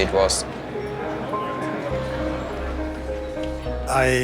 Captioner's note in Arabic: ثرثرة أشخاص